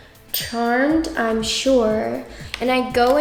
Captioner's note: bell chimes